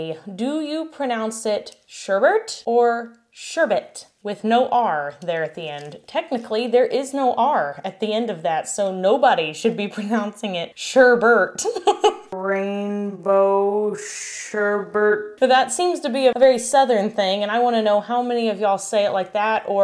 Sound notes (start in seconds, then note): 11.6 laughs